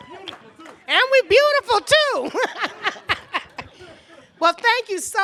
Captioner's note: laughs